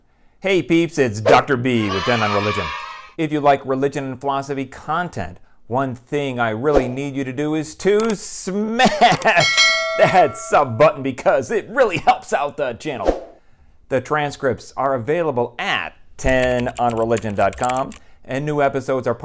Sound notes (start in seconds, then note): 1.7 kids cheering; 9.2 bell ringing; 16.2 keyboard typing